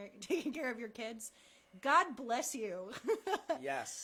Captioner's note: laughter